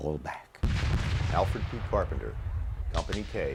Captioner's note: voiceover